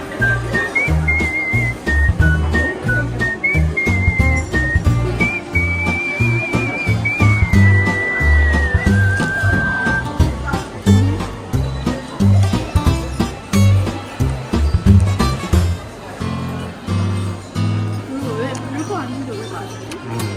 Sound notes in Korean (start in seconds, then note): 2.5 입맛다시는중